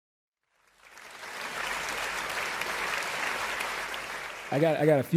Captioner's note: applause